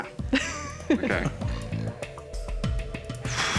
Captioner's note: laughs; exhales